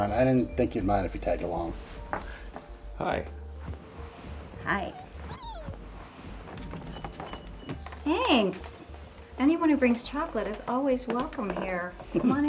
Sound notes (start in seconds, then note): 4.6 dog whining